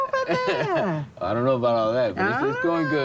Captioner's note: laughs